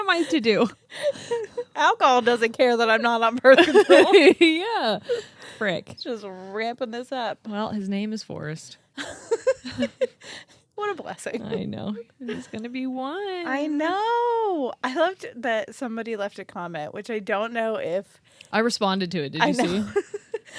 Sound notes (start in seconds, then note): 0.9 laugh; 3.5 laughs; 9.0 laughs; 19.6 laughs